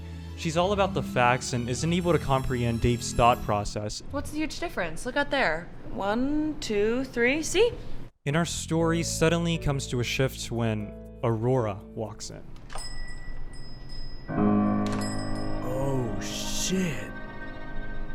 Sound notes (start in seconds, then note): 12.7 door chimes